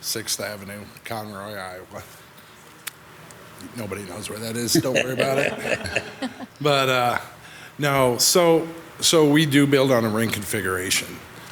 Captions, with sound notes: Conroy, Iowa. Nobody knows where that is, don't worry about it. (group laughs) But no, so, so we do build on a ring configuration.